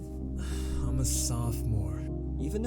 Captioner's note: sigh